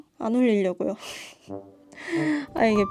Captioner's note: empty laughter